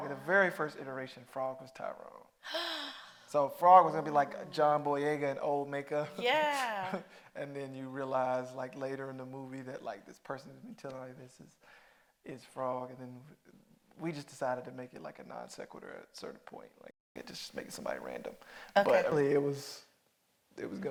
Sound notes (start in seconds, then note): 4.2 Mireille gasping